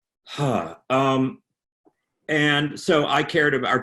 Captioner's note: sighs